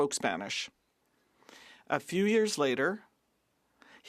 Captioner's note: speaking French